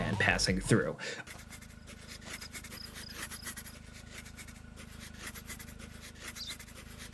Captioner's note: pen scraping